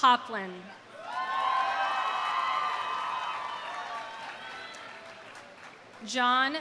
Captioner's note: audience cheering; audience applauding